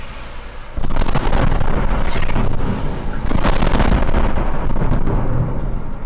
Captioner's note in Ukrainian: вибух